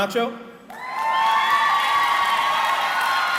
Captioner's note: cheering